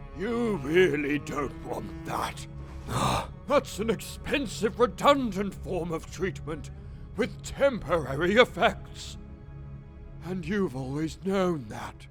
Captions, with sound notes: you really don't want that. *nervous grunt* That's an expensive redundant form of treatment, with temporary effects. And you've always known that...